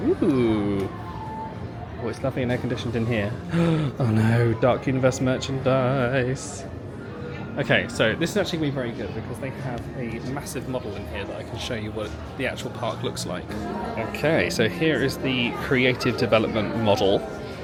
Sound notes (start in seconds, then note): 3.5 gasps